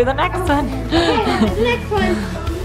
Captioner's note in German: lacht